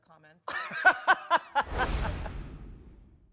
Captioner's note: laughs